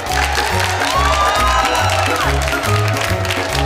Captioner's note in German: Beifall